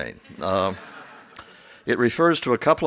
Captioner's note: laughs